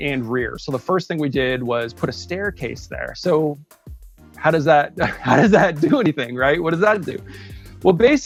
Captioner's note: chuckles